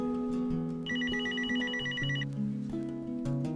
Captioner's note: telephone ringing